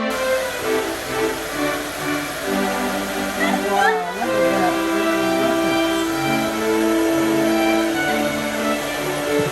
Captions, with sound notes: *Laughs* Wow, look at that! Look at all the colours!